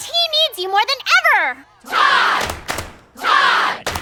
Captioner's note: chants